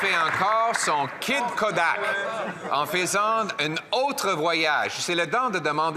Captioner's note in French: voix de l'interprète